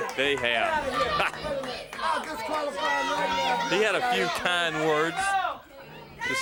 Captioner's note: crowd chatter